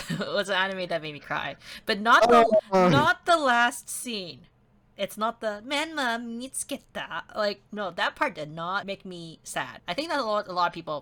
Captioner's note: japenese